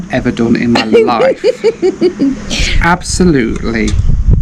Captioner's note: laughing